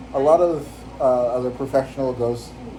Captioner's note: none